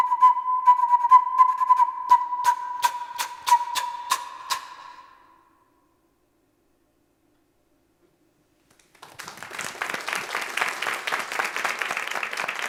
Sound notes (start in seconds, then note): 2.6 playing flute; 8.6 all applauding